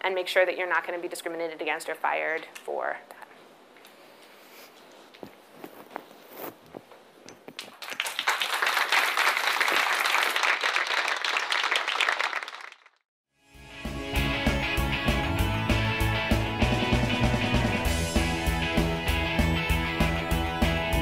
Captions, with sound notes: and make sure that you're not gonna be discriminated against or fired for that. (audience applauds) (upbeat music)